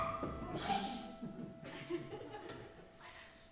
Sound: Laetia shrieks

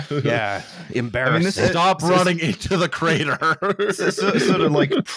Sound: shouts

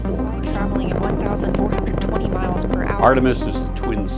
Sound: radio voice: Traveling 1,420 miles per hour

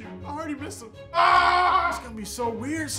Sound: screaming

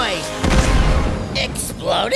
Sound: explosion

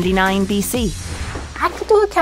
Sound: air whooshing

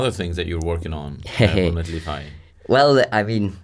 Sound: laughs

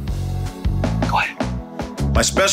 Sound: whispers

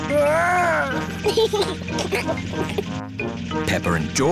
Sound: giggles

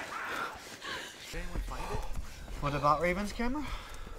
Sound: heavy breathinglexhaustion

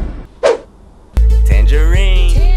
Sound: loud thud, whiplash sound

